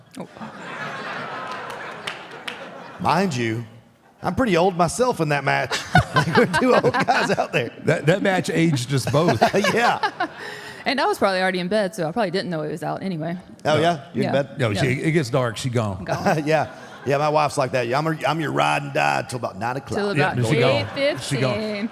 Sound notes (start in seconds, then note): 0.2 audience laughs; 5.7 Michelle laughs; 9.0 Michelle laughs